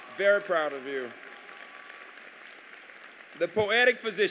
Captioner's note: applause